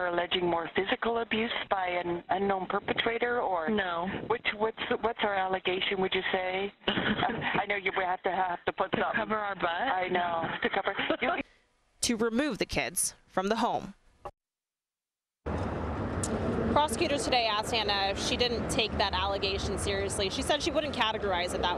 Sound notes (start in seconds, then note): 6.8 laughter